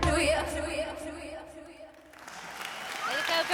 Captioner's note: applause